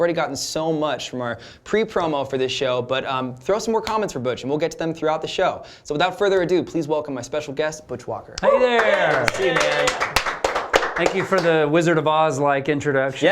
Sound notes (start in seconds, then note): 8.6 applause